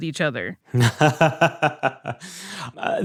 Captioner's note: laughs